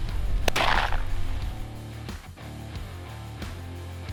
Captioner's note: gun firing